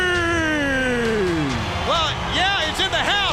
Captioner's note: crowd cheering